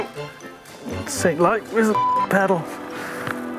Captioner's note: beep